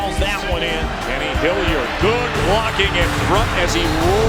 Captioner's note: voiceover